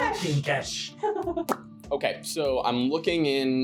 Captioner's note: laughing